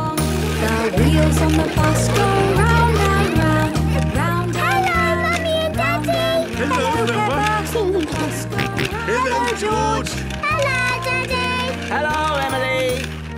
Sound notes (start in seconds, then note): 8.3 George giggling and snorting